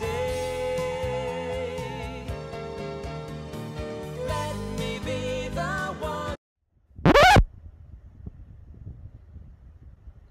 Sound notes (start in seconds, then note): 7.0 record scratch